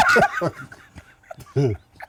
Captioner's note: laughter